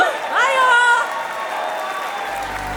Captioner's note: applause; cheering; whistle